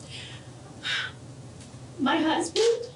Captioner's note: sighs